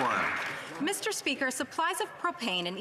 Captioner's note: applause